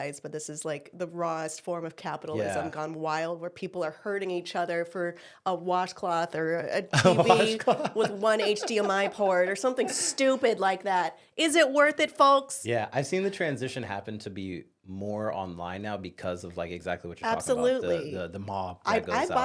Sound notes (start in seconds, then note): 6.9 laughs